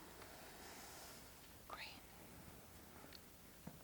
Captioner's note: whispers